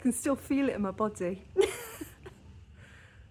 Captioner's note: laughing